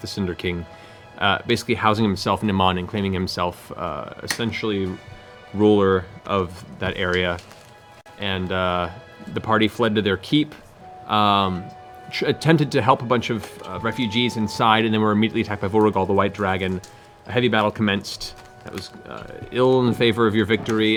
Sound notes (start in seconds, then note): none